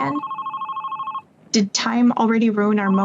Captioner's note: phone ringing